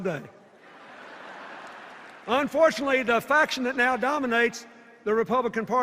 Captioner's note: laughter